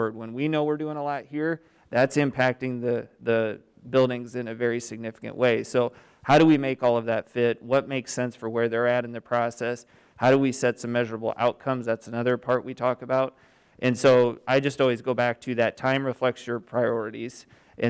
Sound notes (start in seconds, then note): none